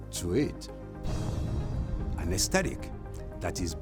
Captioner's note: gentle dynamic music; thud booms